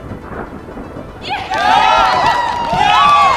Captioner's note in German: Menge schreit